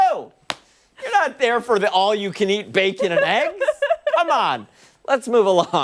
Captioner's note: laughter